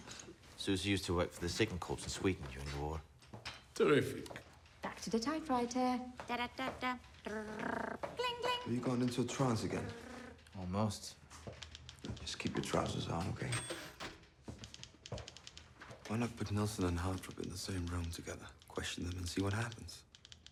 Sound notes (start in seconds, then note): 7.2 hums